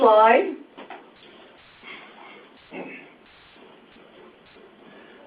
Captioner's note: silence